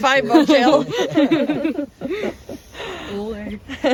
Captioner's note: laughing